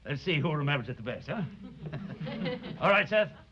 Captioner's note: laughter